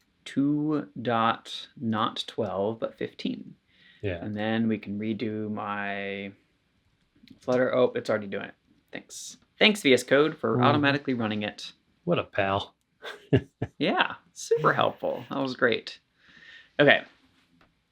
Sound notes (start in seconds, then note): 12.6 laughs